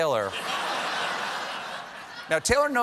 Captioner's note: laughter